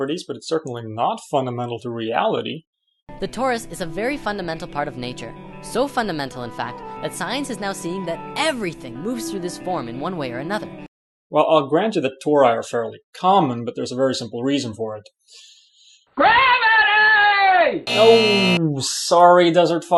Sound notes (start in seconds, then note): 17.8 buzz